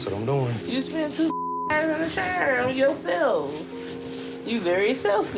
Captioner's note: beep